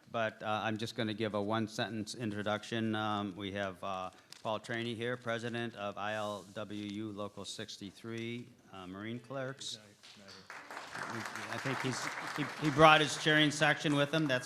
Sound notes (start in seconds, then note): 10.0 applause